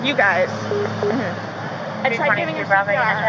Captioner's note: police radio beeps; officer speaking on radio